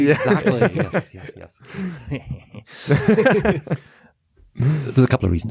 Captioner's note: joker laugh